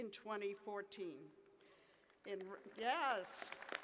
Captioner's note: applause